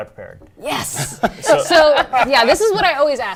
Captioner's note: laughter